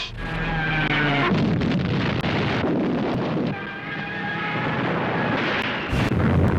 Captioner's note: planes roaring; explosions booming